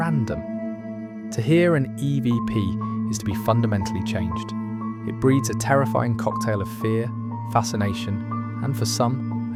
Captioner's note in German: Electronic Voice Phenomenon